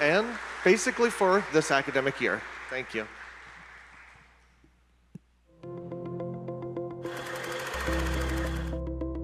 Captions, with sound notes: and basically for this academic year. Thank you. (audience applauding) (cheerful music)